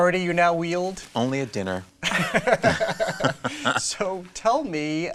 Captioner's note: all laugh